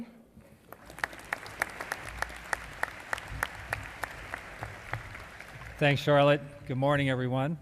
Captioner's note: applause